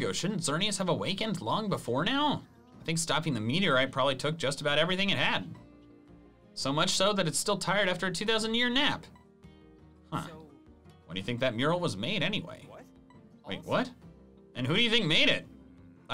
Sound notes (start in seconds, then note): none